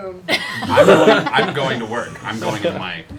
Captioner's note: laughter